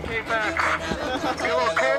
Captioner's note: laughter